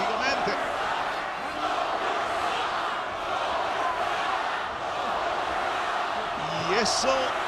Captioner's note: applause